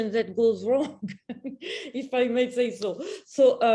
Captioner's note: chuckle